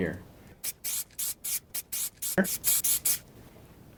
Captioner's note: spritzing